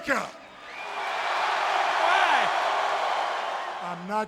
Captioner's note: audience cheering